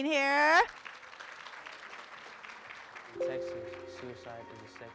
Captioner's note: room applauds